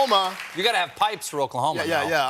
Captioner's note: cheers and applause